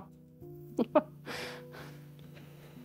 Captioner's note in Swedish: Skratt